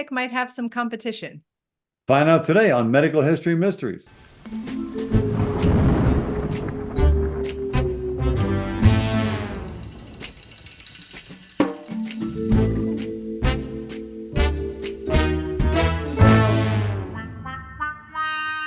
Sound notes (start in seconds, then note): 4.2 thunder rumbles; 4.9 light intriguing music; 14.3 light intriguing music continues